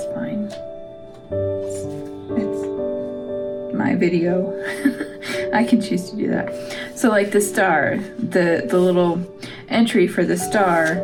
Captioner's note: laugh